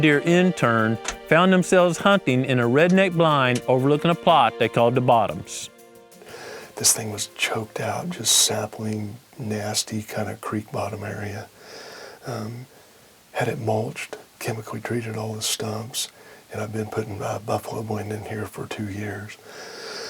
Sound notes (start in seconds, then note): 6.0 whispering